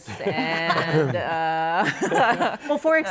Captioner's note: laughter